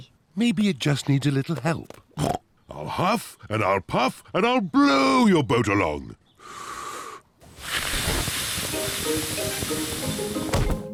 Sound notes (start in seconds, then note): 2.1 snorts; 6.4 inhales, blows